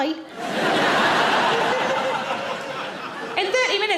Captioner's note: audience laughing